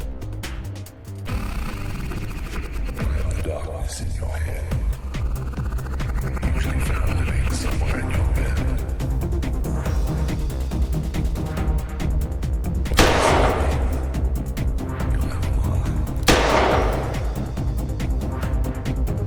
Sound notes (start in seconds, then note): 12.9 gunshot fires; 16.2 gunshot fires